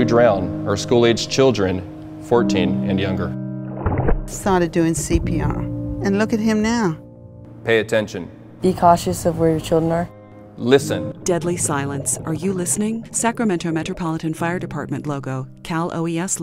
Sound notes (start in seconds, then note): 3.6 water splashing; 10.5 water bubbling; 13.6 somber music